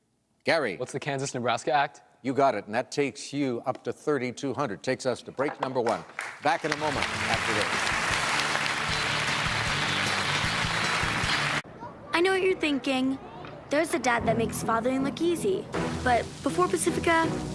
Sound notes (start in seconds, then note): 8.3 applause